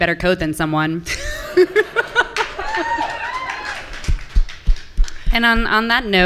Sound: and audience members laughing

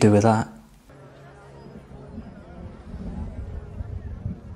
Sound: crowd murmurs

